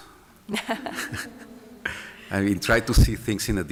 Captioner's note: laughter